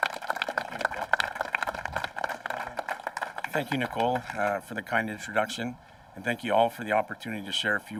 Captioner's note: applause